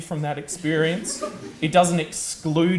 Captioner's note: audience laughs